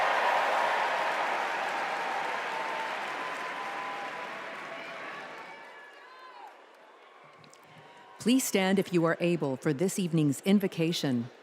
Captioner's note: cheers and applause